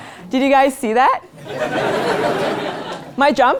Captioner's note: laugh